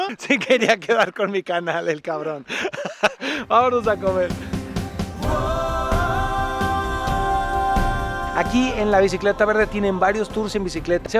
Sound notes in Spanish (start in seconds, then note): 2.2 risas